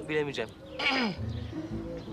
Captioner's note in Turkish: Öksürme sesi